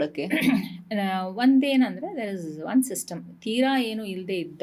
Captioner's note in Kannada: ಗಂಟಲು ಸರಿಮಾಡಿಕೊಳ್ಳುವಿಕೆ